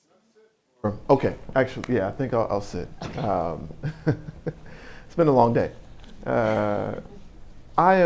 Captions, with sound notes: - Do I sit or, okay, actually, I think I'll sit. (laughing) It's been a long day.